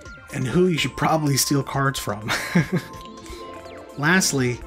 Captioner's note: chuckles